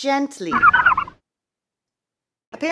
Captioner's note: garbling noises